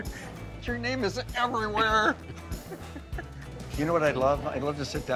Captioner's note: laughs